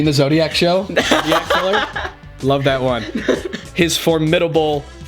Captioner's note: laughs loudly; laughs